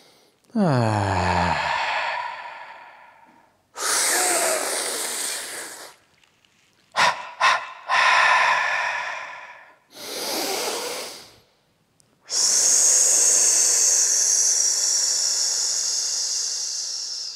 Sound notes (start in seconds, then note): 0.0 inhales; 0.5 sighing exhale; 3.8 sucking inhale through a straw; 6.9 short sharp exhales; 9.7 big inhale; 12.2 exhale on an 's'